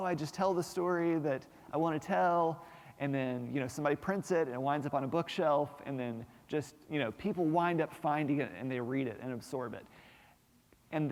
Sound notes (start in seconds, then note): none